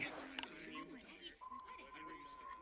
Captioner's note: beeping